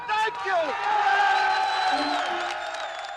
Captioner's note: crowd cheering